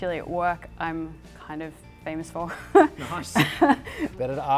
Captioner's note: laughs